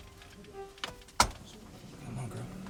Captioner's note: click sound